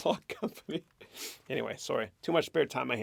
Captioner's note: chuckles